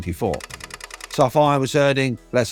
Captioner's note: typewriter clacking